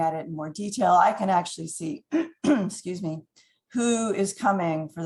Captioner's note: clears throat